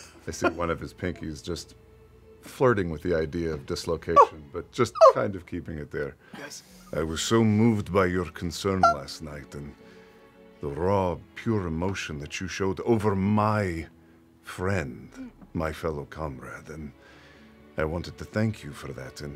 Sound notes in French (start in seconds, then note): 3.8 voix aiguë, souffrant; 8.8 voix aiguë, souffrant